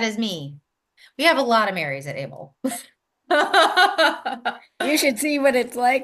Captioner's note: laughs